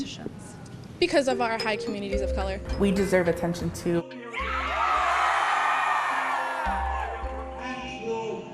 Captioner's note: cheering